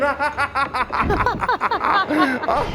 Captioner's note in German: lacht